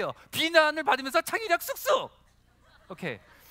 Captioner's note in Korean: 웃음